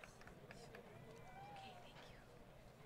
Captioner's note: crowd Cheering